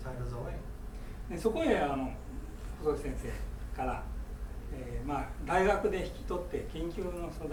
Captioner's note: speaking in foreign language